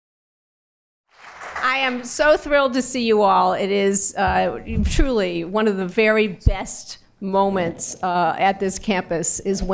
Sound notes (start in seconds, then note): 1.1 applause